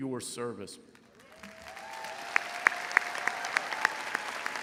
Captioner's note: crowd applauds